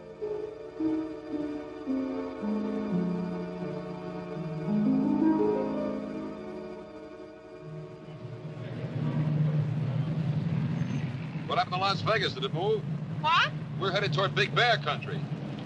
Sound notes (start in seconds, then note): 7.9 car engine rumbling; 10.7 tires screech